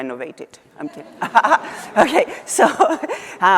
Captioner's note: audience laughing